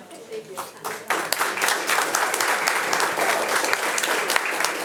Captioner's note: audience applauding